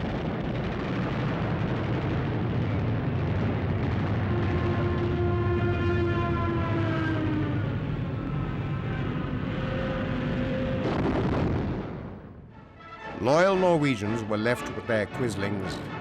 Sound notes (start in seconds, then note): 0.1 guns firing; 5.6 planes buzzing